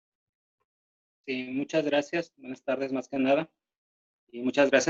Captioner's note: speaking spanish